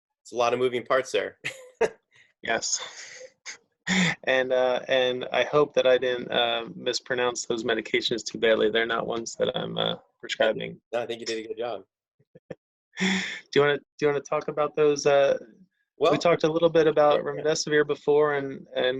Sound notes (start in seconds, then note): 2.5 chuckles; 13.0 laughing